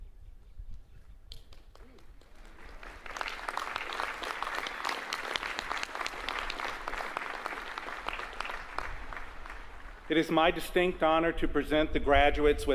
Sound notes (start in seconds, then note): 4.3 applause